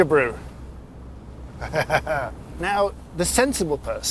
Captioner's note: laughing